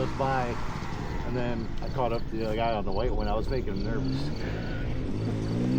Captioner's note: engine revving